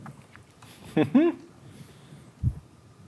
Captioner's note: laughs